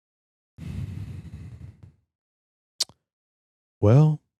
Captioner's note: deep Exhale